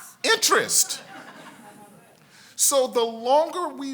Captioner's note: congregation laughs